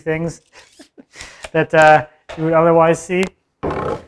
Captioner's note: laughs